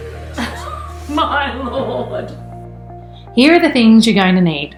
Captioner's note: laughs